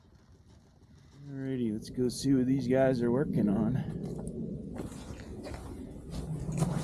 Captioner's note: match flares, fire crackles